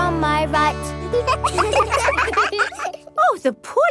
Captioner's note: children laugh